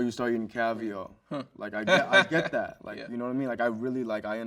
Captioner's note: host chuckles